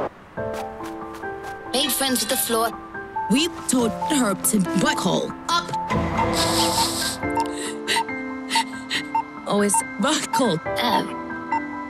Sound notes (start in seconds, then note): 6.4 crying